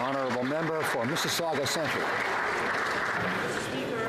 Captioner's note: applause